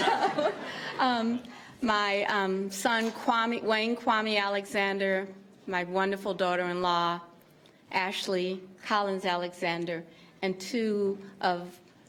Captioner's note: laughter